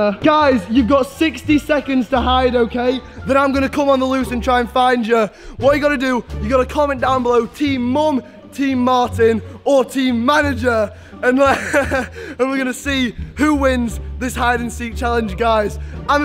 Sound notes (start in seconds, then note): 11.2 laughs